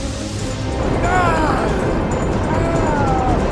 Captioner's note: Bruce groaning